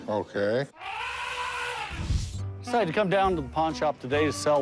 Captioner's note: elephant trumpeting